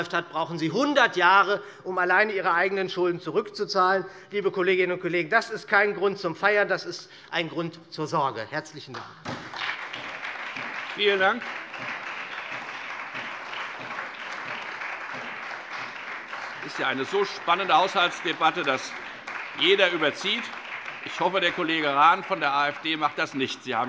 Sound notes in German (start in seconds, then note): 9.6 Beifall SPD, Freie Demokraten und vereinzelt DIE LINKE